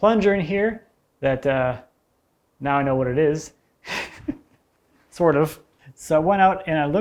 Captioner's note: chuckles